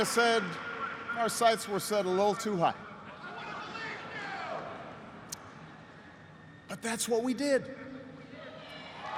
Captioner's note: cheers and applause